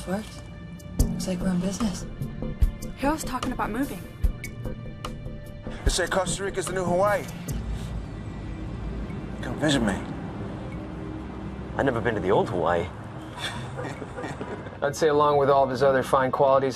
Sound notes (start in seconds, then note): 7.5 sniffing; 13.3 chuckling